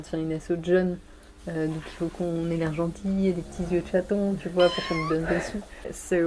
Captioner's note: meow sound